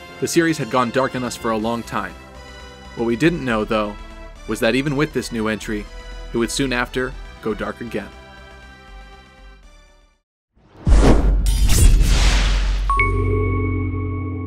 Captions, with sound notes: The series had gone dark on us for a long time. What we didn't know though, was that even with this new entry, it would soon after, go dark again. [Sword slash] [Intro Jingle]